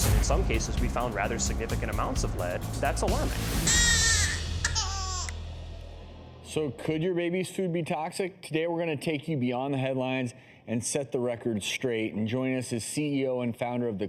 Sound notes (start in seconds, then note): 3.6 baby crying